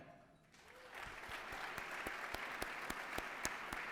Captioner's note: applause